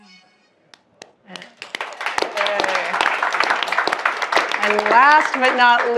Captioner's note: audience applauding